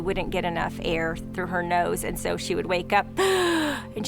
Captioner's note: gasps